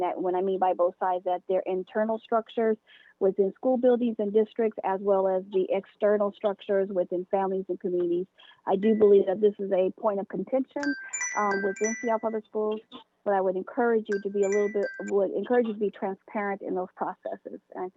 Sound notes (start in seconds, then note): 10.8 chime